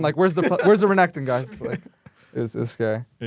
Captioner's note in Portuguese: risos